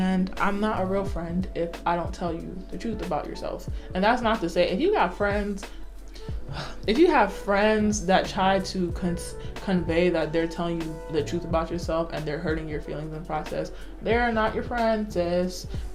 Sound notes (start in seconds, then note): 6.4 sighs